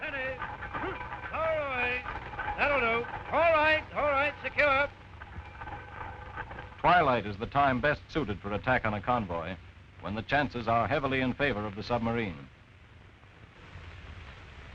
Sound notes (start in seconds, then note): 7.0 voiceover